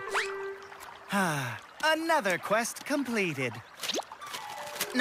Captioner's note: sighs